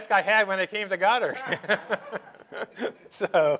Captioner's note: laughter